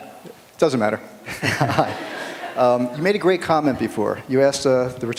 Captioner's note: laughter